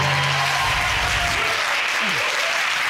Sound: audience cheering

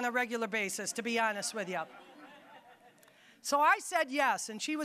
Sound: audience laughing

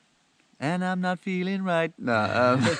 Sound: laughing

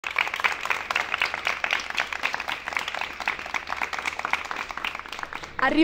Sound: applause

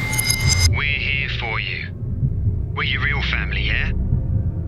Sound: voice from headset

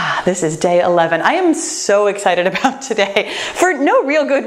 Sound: laughs

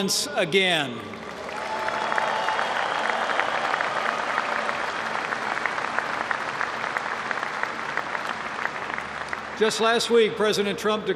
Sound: applause

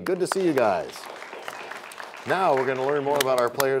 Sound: applause

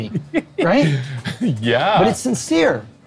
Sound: laughs

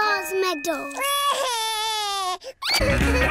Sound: cries

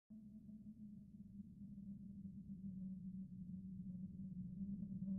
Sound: spooky wind

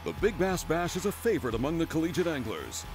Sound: voiceover

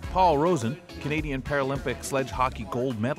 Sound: voiceover

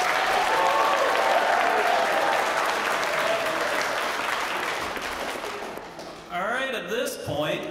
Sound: applause

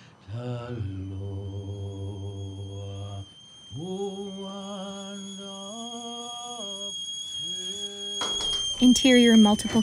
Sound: kettle steaming

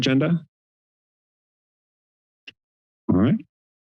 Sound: silence

